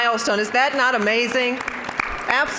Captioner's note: applause